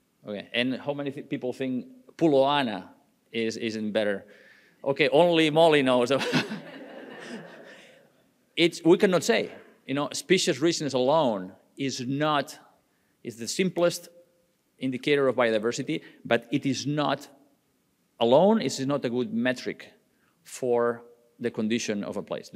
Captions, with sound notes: Okay, and how many people think Pulo Anna is in better, okay, only Molly knows though. (audience laughing) We cannot say, you know? Species richness alone is not, is the simplest indicator of biodiversity, but it is not alone. It is not a good metric for the condition of a place.